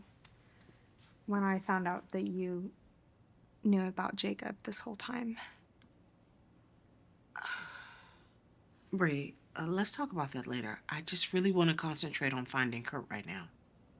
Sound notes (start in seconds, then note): 7.3 Colleen sighs